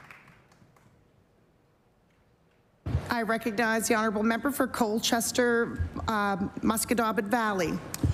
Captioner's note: applause